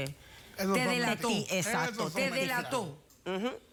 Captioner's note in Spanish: Hablan al unísono